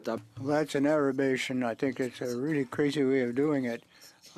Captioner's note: speaking French